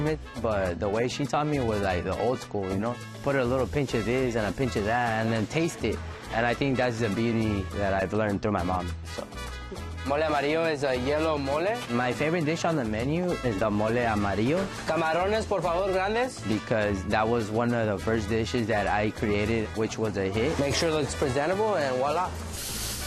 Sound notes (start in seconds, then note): 14.9 speaking Spanish